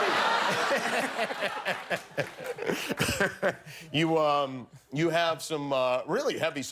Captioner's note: laughter